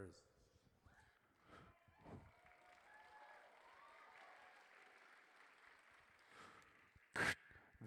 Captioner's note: audience cheers